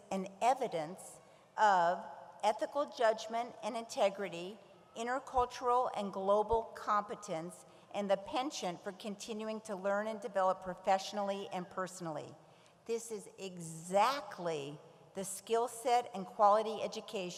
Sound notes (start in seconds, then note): none